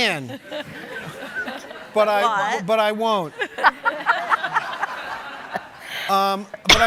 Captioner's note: audience laughing